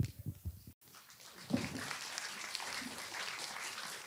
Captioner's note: audience applause